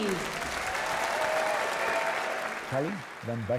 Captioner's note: cheering